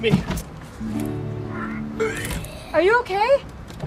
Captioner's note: vomiting sounds